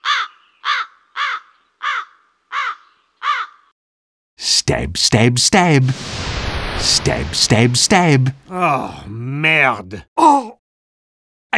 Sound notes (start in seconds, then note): 0.0 crow noise; 8.5 unpleasnt groan